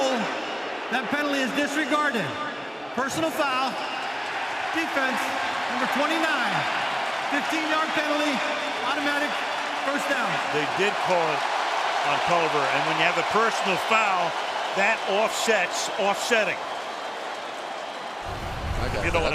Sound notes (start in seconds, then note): 4.4 cheering